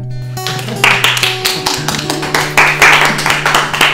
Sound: applause

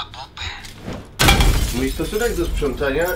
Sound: thud

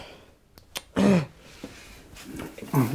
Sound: Mitsue clicks her tongue

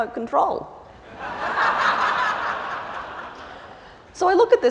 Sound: laughter

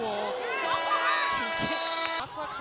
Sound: horn blaring; whistles blowing shrilly

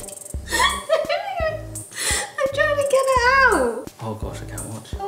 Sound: laughs

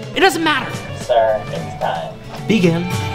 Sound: over intercom

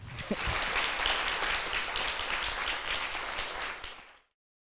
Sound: audience applauds

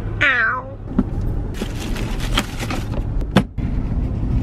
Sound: plastic crinkling

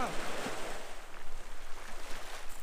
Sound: sea sounds

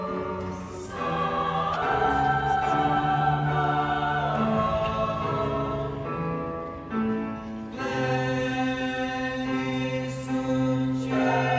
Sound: voices

